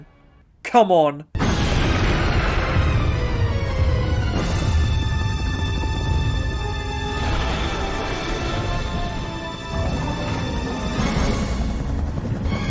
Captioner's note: angry T Rex noises